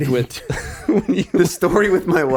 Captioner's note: Justin laughing